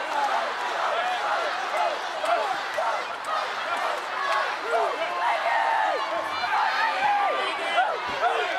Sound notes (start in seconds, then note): 3.6 audience cheering